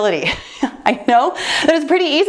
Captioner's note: laughs